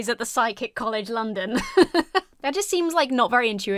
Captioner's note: laughs